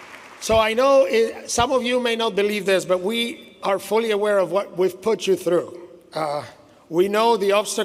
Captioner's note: applause